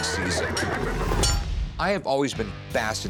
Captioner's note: battle sounds